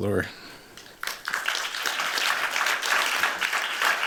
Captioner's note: applause